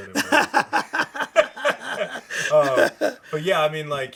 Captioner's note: laughs